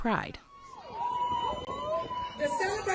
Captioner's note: attendees cheering